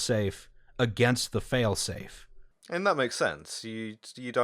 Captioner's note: none